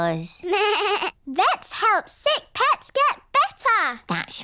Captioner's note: bleats